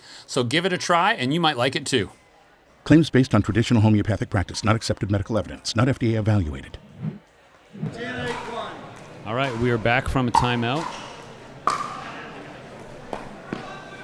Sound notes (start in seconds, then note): 2.5 voiceover; 11.1 ball clacking